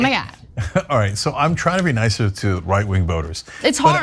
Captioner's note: laugh